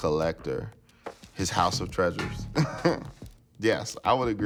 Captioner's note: laughter